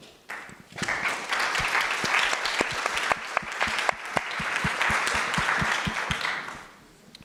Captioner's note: applause